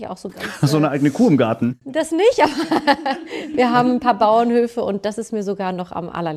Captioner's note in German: gelächter